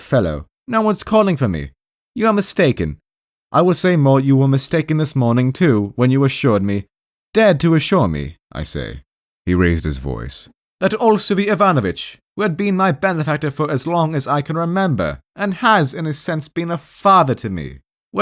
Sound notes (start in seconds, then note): 9.2 he raised his voice